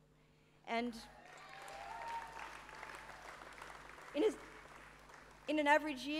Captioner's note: applause